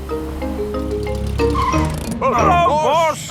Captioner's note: brakes squeal